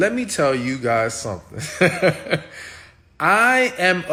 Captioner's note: laughs